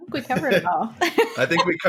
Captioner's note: laughing